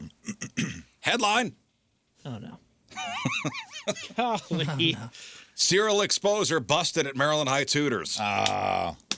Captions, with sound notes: Headline. Oh no. (laughing) Serial exposure busted at Maryland High Tutors. Ah.